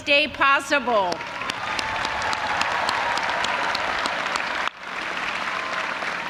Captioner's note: audience applauding and cheering